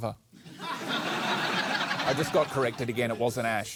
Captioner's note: laughter